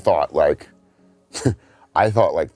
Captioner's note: scoffs